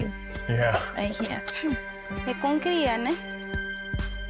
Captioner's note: speaks native language